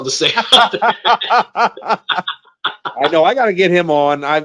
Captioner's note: both laugh